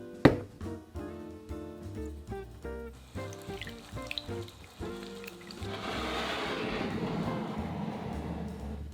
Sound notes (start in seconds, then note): 2.9 water stirring